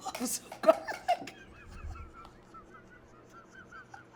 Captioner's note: laughing